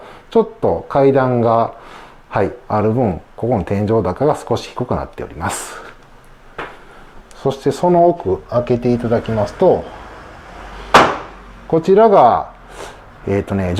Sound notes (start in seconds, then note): 8.5 sliding door